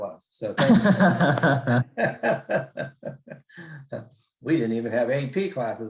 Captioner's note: laugh